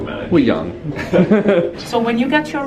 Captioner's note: they chuckle